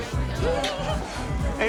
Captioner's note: Mindy giggles awkwardly; lips smack